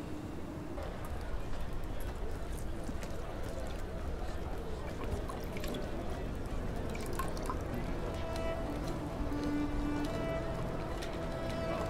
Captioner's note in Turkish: Uğultu Sesleri